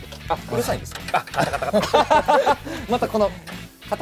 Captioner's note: rattle